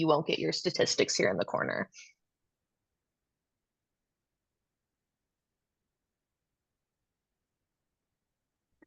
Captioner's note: silence